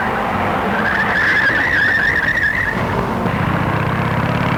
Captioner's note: tires screeching